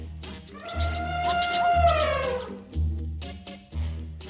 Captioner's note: elephant trumpeting